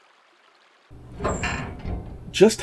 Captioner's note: door sound